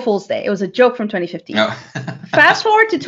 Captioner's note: laughing